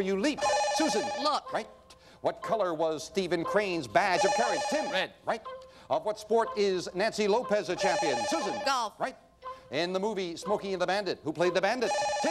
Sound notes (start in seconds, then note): 4.1 bell rings; 7.7 bell rings; 11.8 bell rings